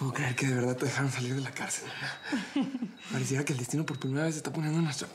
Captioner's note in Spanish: ella ríe